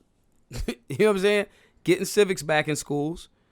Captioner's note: laughs